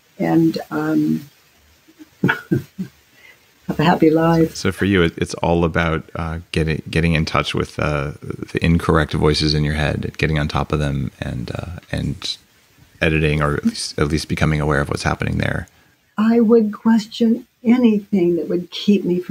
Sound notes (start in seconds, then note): 2.0 laughs